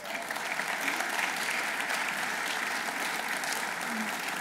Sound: audience applauding

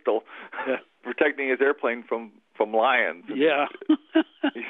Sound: laughter

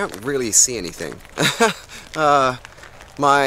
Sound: tourist chuckles

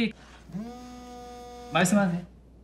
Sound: phone vibrating

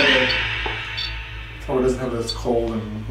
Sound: radio noise reverberating

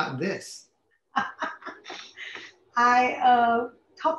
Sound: laughs

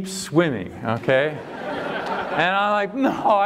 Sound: laughter

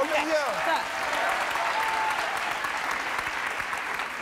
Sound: audience applauding

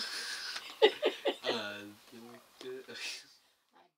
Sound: laughter

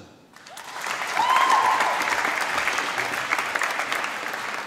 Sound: applause

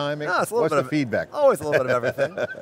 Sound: laughs

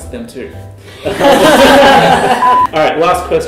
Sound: laughter

